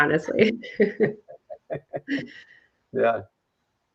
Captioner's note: laughing